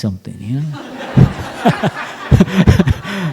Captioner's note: laughter